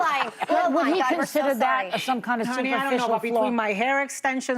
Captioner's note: laughter